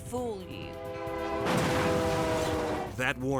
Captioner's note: train horn honking; vehicles thudding